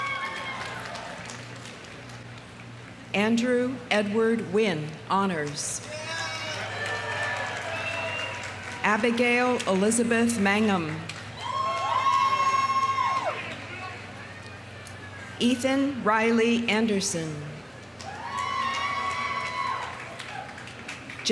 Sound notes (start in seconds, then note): 0.0 audience cheering; 0.0 audience applauding; 5.8 audience applauding; 5.8 audience cheering; 10.8 audience applauding; 11.2 audience cheering; 18.0 audience cheering; 18.0 audience applauding